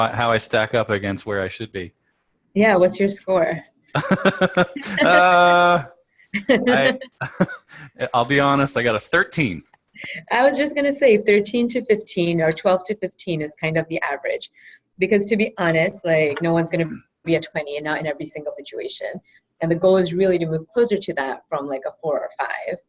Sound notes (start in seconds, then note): 3.9 laugh; 5.4 laughter; 6.7 laugh